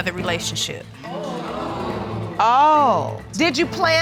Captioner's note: audience exclaim